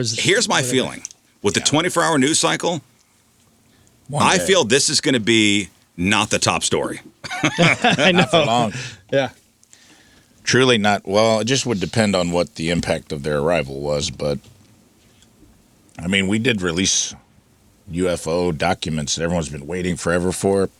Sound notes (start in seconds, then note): 7.2 laughs